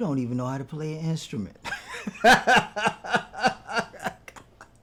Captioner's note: laughing